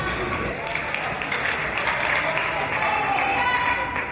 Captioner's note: applause